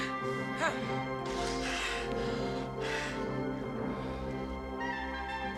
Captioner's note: grunting